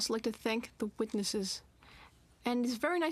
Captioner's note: speaking French